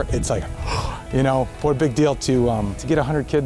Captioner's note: gasps